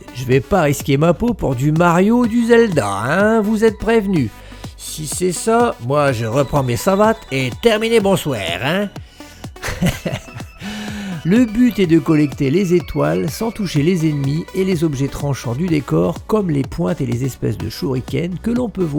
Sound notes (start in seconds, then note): 9.6 laughter